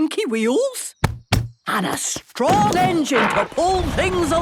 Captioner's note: thumping